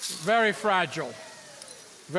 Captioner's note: petals clinking; audience oohing